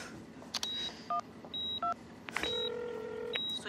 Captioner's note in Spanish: Sonido al marcar